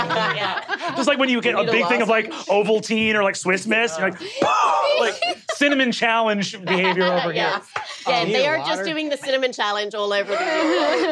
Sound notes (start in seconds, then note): 4.8 coughs